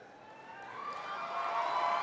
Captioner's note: cheers and applause